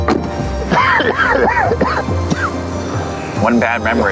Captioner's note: Rick coughing